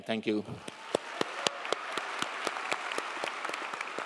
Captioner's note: crowd applauding